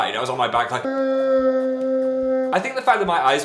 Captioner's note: screaming